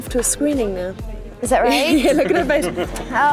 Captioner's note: laughing